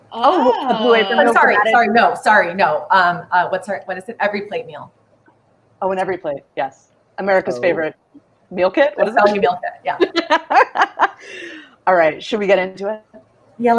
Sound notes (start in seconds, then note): 3.6 stammers; 10.6 laughs